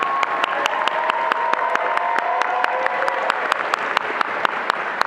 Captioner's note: attendees applauding and cheering